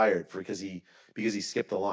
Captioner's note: none